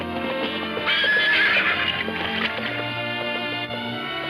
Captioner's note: horse whinnying